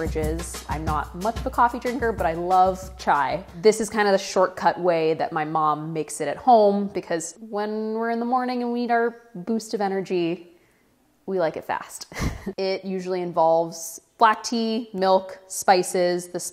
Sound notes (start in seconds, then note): 12.1 laughs